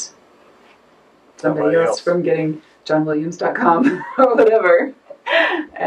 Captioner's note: laughs